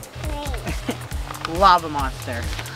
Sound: laughs

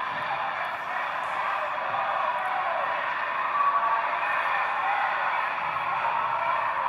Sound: muffled, distant chanting and cheering continues

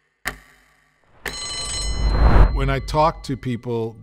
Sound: bell rings

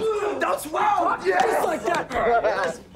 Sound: laughing

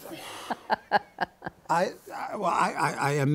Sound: laughter

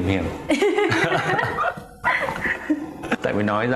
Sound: laughing

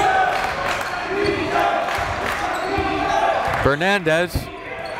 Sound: crowd

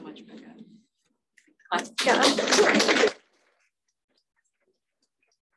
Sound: panelists applauding

